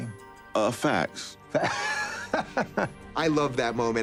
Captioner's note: laughs